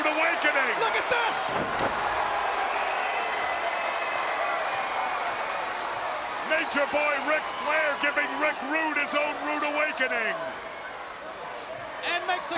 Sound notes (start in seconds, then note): 1.9 crowd cheering